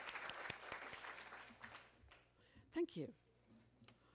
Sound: applause

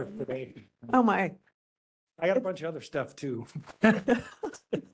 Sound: laughing

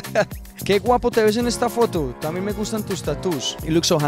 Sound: laughing; speaking in Spanish

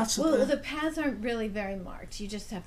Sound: voiceover

